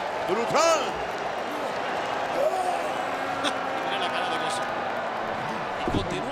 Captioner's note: applause